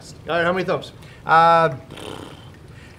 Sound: blows raspberries

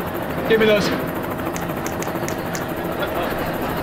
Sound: snapping

